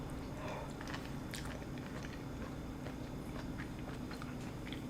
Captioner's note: chewing